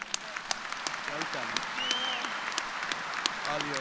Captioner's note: applause